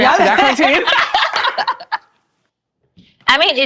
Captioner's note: laughing